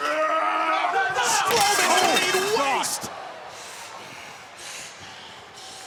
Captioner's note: overlapping chatter